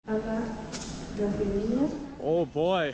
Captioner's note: airport announcements